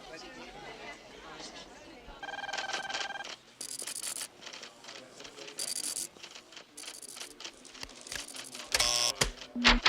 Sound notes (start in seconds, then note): 2.2 phone ringing; 8.7 door buzzes